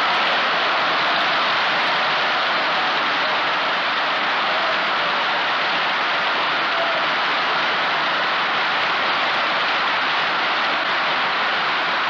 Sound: applause

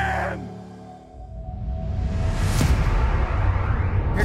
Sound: dramatic sound effects

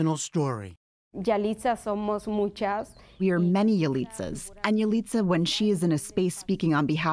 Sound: through translator

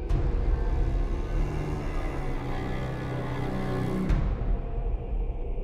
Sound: ominous low screeching

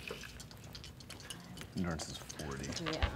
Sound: rolling dice

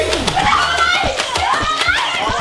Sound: gunshot firing; screams

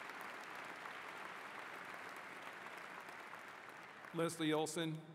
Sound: applause

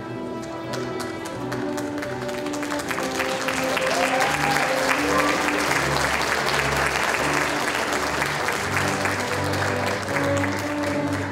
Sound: applause

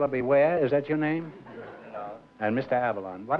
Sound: laughter

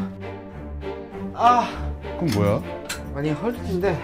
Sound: crying

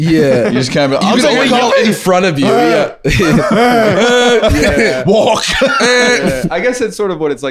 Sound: more chaos, overlapping yelling

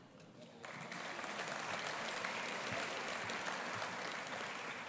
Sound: audience applauding

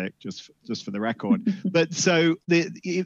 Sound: laughs

